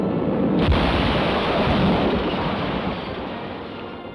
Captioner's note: boat crashes